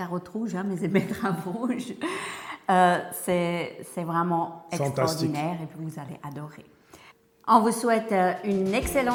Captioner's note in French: rires